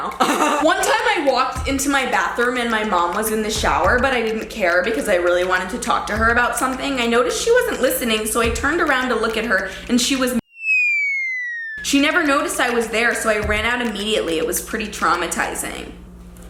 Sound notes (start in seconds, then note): 0.2 laughs; 10.4 whistling